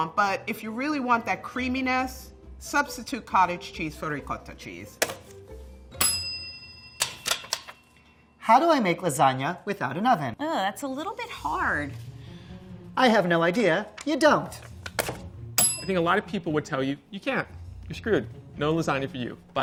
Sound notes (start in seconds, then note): 6.0 bell dinging; 15.6 bell ringing